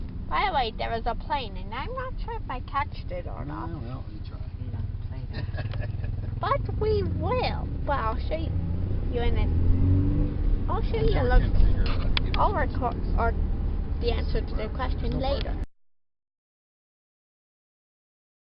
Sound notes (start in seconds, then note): 5.2 laughs; 11.8 stutters